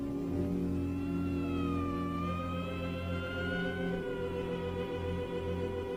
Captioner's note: police siren blaring in distance